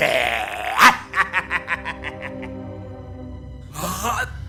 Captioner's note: laughter